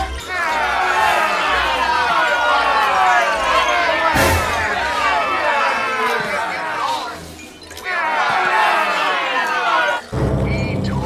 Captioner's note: spring boinging, suspense strikes, kids booing; crowd booing, suspense strikes